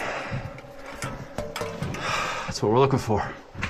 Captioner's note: metal clinks